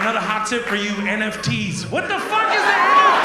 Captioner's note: audience laughs